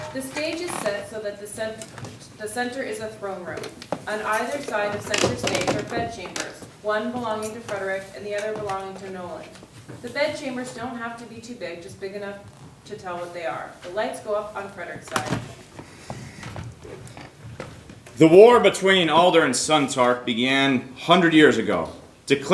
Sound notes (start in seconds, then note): none